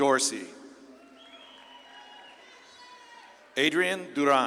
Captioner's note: audience claps and cheers